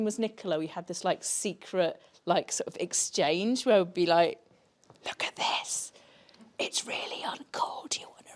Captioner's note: whispers